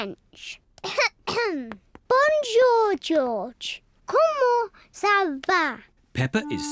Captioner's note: coughs